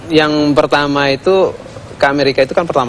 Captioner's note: non-english speech